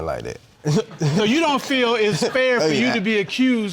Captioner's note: chuckles